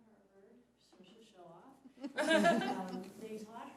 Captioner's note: laughing